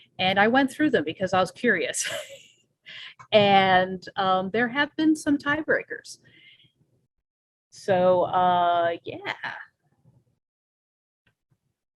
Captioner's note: laughs